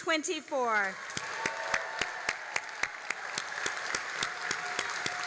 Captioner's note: all applauding and cheering